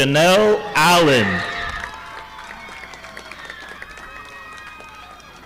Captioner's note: audience applauding